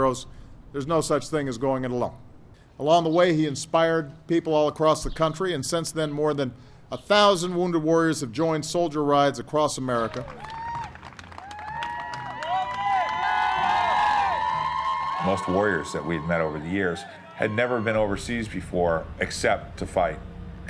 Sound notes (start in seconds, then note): 10.2 cheering